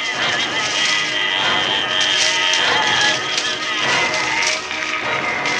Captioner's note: gurgling